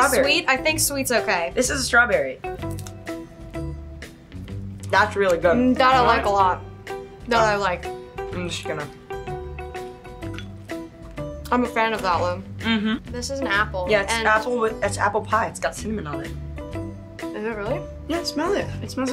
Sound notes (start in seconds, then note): 12.6 hums in agreement